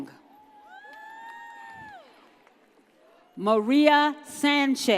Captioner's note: audience cheers